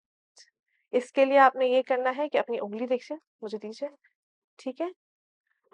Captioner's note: in Urdu